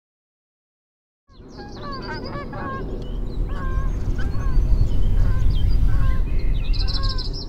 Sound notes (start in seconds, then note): 1.3 birds chirping, ducks quacking, geese honking